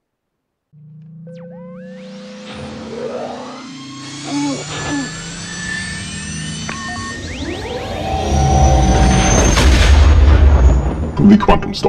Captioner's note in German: Millennium Falcon Triebwerksgeräusche